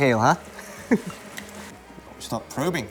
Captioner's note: chuckles